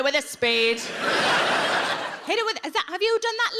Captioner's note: audience laughing